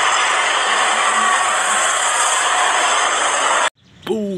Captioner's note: applause